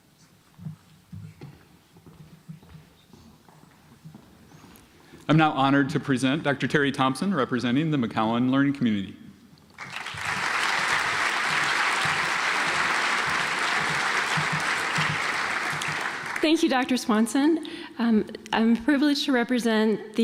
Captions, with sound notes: I'm now honored to present Dr. Teri Thomsen representing the McCowen learning community. (audience applauds) - Thank You Dr. Swanson. I'm privileged to represent